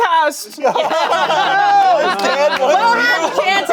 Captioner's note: everyone laughing